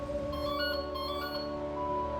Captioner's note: ringing